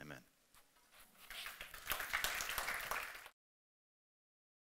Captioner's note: clapping